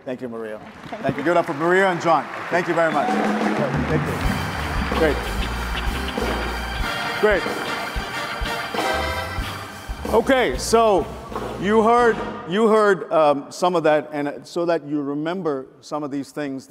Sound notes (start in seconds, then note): 1.3 audience applauds; 5.2 jazz music